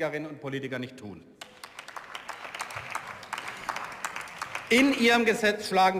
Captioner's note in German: Beifall